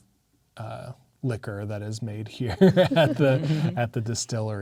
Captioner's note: laughing